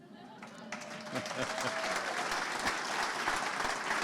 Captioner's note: audience clapping